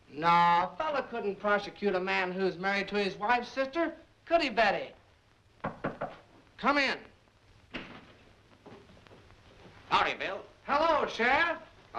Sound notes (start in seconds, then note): 5.6 knock on door